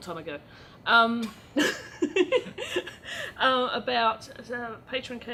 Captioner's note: laughs